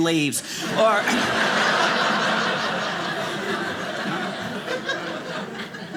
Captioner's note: audience laughing